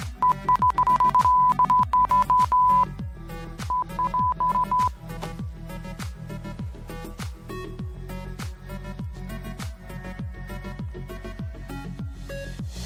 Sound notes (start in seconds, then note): 0.2 authoritative beeping; 3.6 beeping